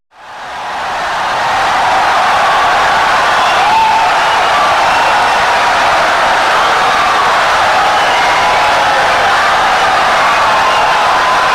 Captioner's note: wild applause and cheering for 17 seconds